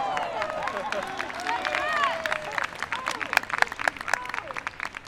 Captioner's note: people clapping